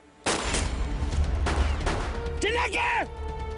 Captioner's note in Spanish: Disparos